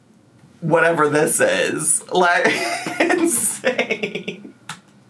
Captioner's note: laughing